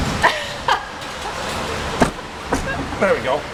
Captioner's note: chuckling